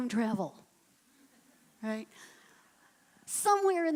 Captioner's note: laughing